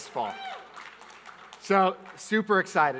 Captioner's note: audience clapping